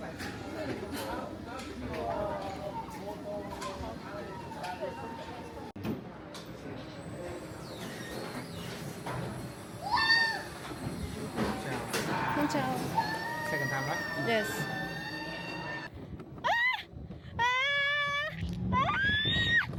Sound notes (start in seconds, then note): 13.0 warning: Screaming